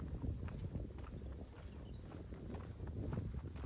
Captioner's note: none